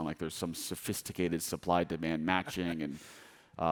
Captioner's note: laughing